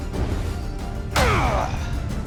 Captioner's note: grunt